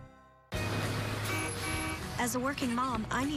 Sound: bus honks

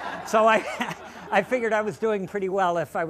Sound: laughter

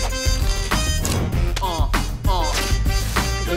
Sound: slap

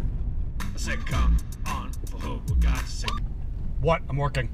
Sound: Seth's Ringtone plays overhead

